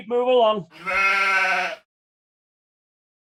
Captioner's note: sheep bleating